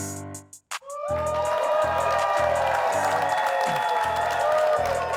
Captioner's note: upbeat hip-hop music continues; audience cheering